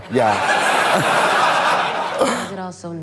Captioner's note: audience laughs